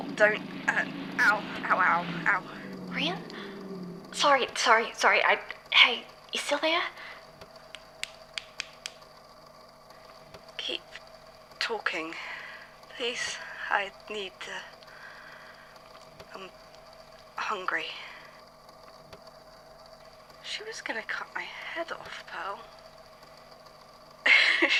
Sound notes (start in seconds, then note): 4.5 engine noises cycle down, then stop; 7.6 snapping fingers